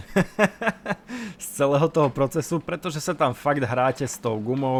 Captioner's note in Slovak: smiech